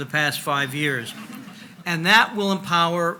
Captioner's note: audience laughs